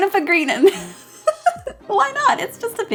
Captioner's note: laughs